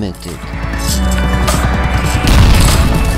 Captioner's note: helicopter crash